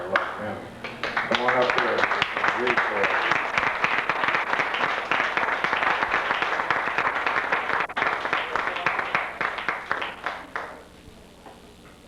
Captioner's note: applause